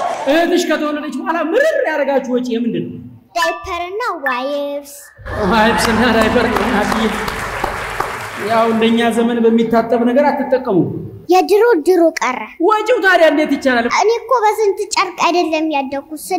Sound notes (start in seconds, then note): 5.2 applause